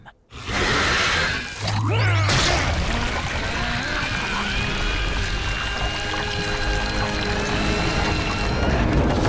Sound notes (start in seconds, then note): 1.2 grunting